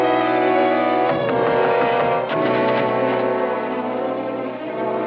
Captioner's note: knocking, Doorknob Rattling